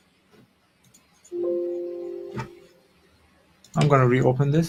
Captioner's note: notification rings